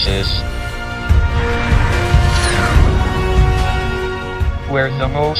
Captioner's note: dramatic music continues; spaceship roaring